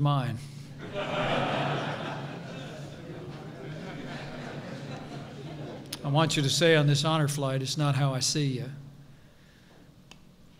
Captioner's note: laughter